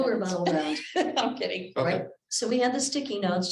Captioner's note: laughs